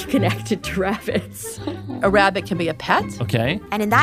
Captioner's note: laughs